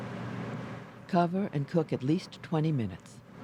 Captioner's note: voiceover